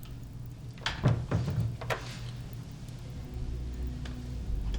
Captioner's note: door thudding